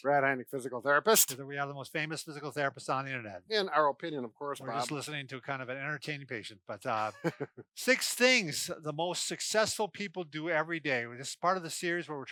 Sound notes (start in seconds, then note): 6.9 laughs